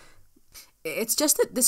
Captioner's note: nose Noise